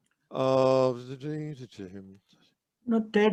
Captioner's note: vocalizes expectantly